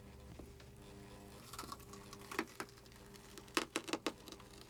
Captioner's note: scraping